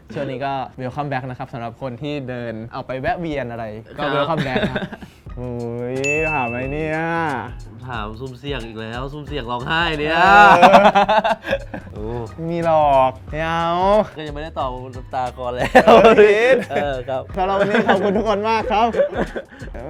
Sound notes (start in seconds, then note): 4.1 laughs; 10.0 laughs; 17.4 laughs